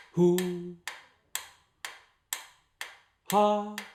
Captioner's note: ticking sounds